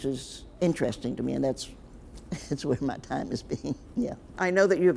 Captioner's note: chuckles